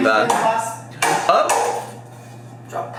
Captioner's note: pepper shaker thuds